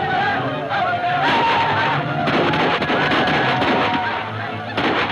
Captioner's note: gunfire pops